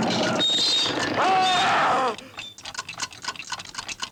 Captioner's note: Morgan screams; clocks ticking